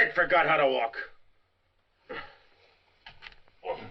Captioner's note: silence